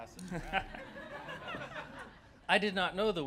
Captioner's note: laughter